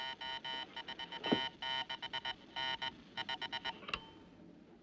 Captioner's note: Zumbido, clicando em Continuar, Parar